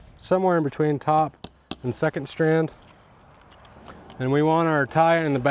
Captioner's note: hammer clanging